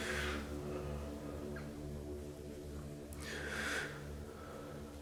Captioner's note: heavy breathing